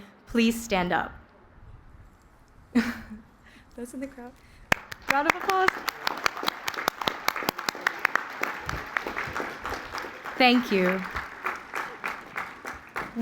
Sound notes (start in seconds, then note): 5.9 applause